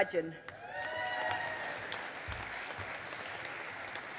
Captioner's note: audience applauding